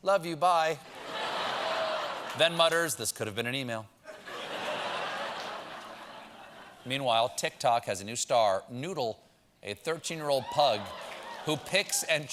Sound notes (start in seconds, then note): 6.5 laughter